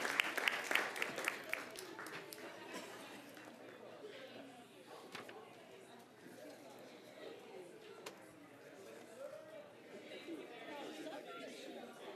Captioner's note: applause